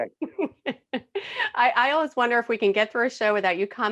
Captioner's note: laughing